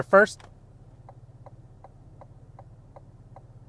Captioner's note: indicator ticks